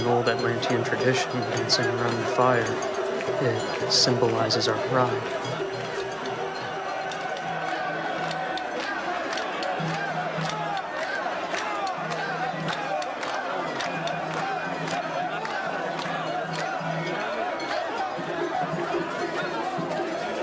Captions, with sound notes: This right here is an old Atlantian tradition, dancing around the fire. It symbolizes our pride. (instruments drumming) (people chanting)